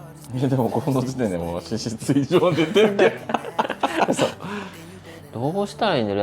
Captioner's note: sigh